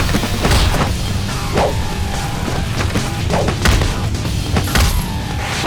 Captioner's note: blows thudding; air whooshing